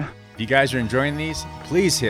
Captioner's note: voiceover